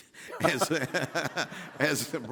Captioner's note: all laughing